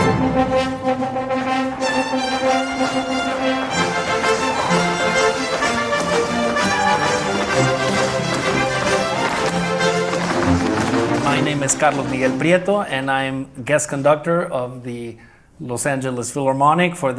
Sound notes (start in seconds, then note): 11.2 in English